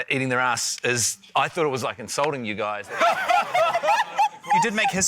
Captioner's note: laughter